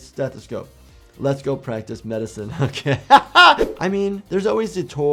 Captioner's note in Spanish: risas